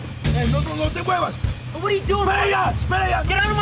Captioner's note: non-english speech; non-english speech